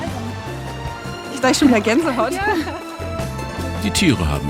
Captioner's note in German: lachend